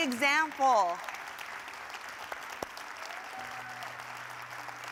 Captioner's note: audience applauding